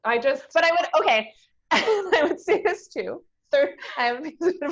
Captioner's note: laughs